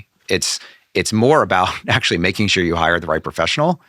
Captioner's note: laughing